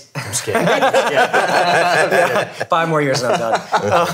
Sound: laughing

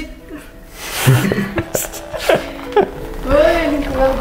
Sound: laughing

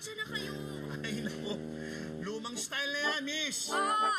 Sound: chuckles

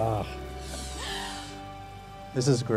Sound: inhales sharply

